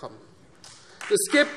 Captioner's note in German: Beifall Freie Demokraten und vereinzelt CDU